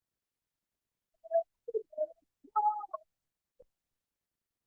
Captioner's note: audio warbling